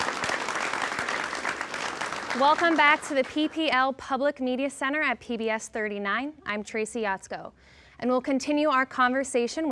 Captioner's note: applause